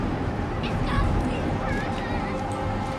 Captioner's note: children playing